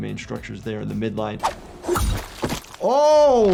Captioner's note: weapon slashes